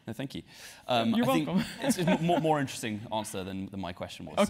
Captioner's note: laugh